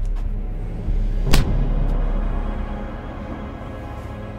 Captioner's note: fist thumps